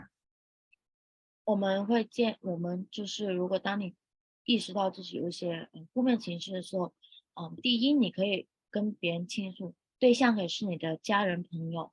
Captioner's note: speaking chinese